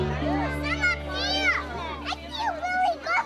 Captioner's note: child yelling